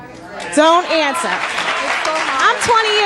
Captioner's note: audience applauding